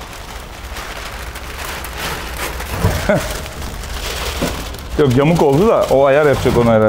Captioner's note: squeaking sound